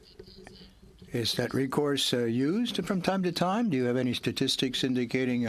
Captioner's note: speaking French